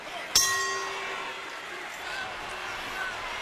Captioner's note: bell rings